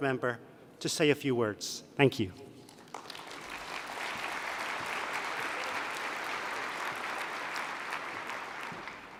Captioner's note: applause